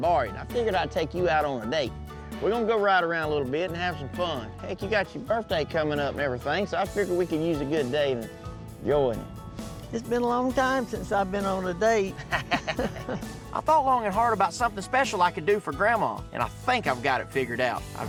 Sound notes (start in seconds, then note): 12.1 both laugh